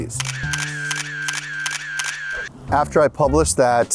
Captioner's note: camera shutters